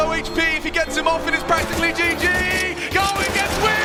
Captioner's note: gun firing